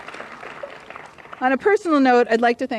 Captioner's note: applause